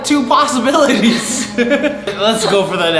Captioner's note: laughing